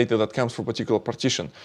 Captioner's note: none